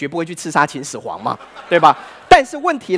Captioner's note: laughter